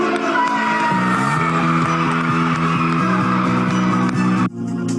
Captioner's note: children cheering; intriguing electro music